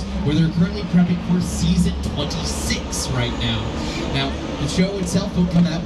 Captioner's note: none